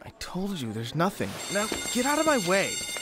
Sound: school bell

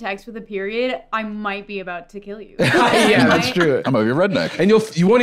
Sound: laughs

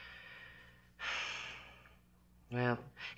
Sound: sighs

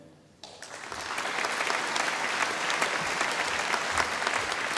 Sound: audience applauding

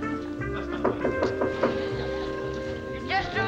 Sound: knocking

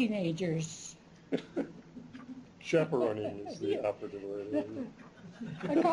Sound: laughs

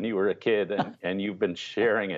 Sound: laughter

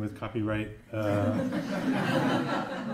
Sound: laughter

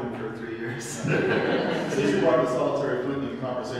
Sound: audience laughs

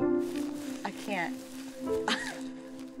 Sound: chuckles

